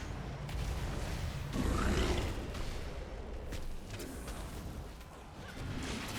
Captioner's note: explosions